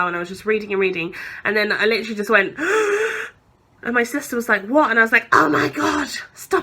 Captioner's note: gasps